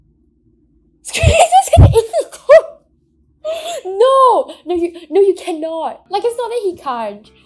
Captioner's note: laughs